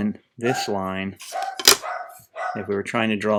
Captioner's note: barking